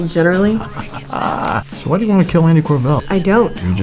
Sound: laughs

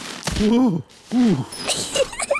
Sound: groans; giggles

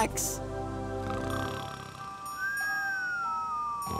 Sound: snoring

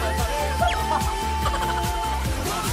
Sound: haha

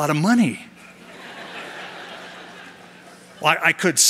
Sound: laughter

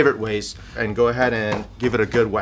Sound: tenderizer pounding

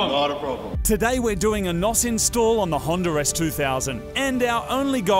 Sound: voice over

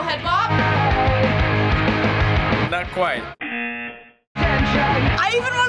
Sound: buzzer

